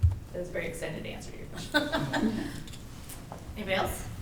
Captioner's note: laughs